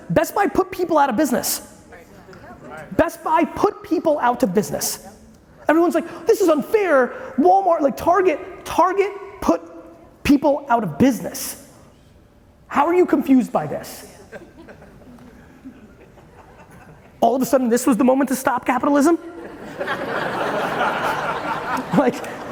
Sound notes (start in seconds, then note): 14.2 audience chuckling lightly; 19.3 audience laughing